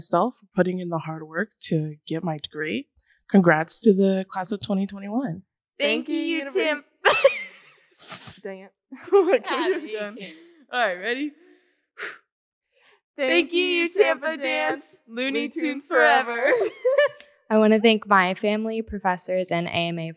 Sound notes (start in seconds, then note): 7.0 laughs; 12.0 exhales; 15.4 laughs